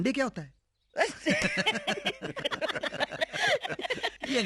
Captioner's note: all Laughing